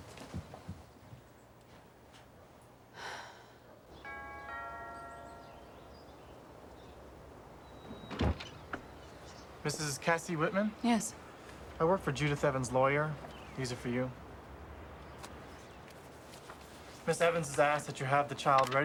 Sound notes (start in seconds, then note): 3.9 doorbell rings